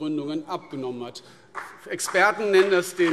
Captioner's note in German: Beifall CDU und BÜNDNIS 90/DIE GRÜNEN